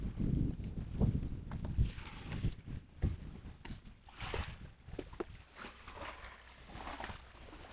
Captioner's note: wind